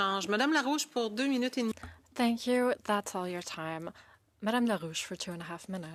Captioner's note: speaking French